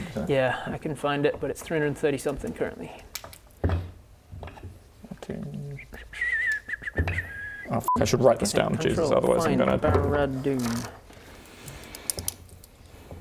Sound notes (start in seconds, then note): 6.2 whistle of finding